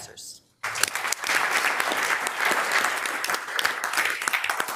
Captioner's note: members applauding